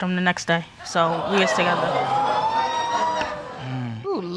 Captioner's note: audience exclaiming